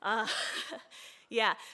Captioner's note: soft laugh